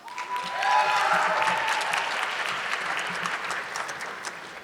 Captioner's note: audience clapping